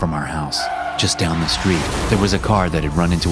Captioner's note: tires squealing; crashing